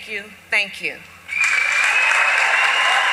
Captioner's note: applause